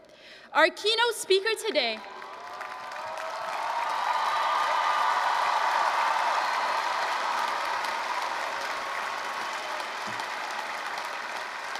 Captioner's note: applause, cheering